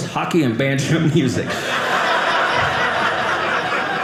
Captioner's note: audience laughing